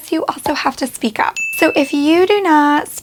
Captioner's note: bell dings